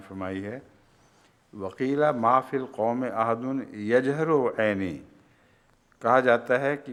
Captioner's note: Arabic